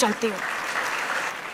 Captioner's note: applause